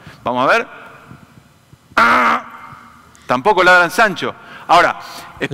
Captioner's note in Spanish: sonido de negación